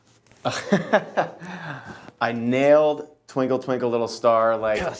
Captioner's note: laughs